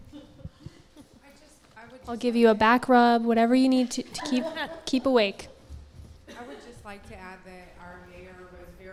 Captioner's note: laughter